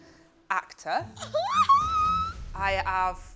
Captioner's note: giggles excitedly